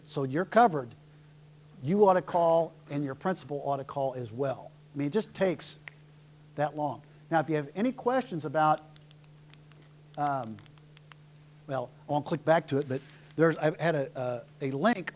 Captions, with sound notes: ought to call and your principal ought to call as well. It just takes [snaps fingers] that long. Now if you have any questions, I have a link on there some place,